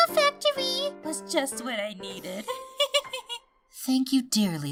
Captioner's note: giggles